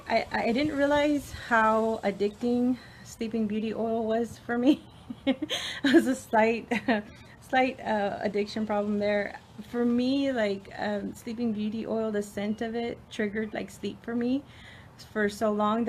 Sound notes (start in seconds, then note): 4.8 laughs